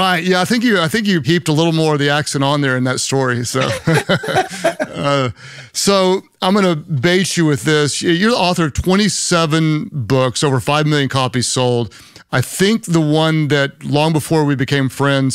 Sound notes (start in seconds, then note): 3.6 both laughing